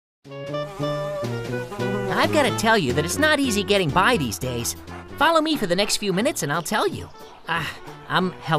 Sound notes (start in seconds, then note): 1.2 positive music; 1.8 fly buzzing; 7.7 dog panting